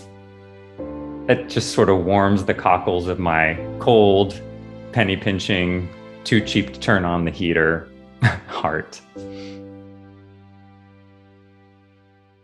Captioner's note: laughs